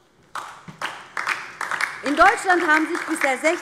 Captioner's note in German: Beifall DIE LINKE